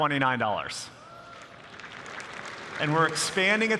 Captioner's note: applause